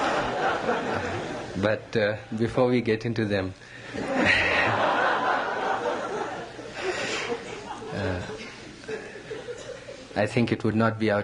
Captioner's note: laughter, laughs; laughter